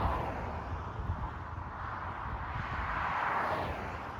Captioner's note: loud traffic noise